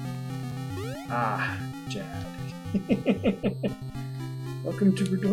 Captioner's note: chuckles